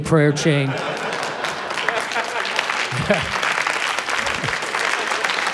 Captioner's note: applause